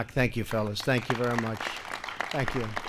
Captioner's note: applause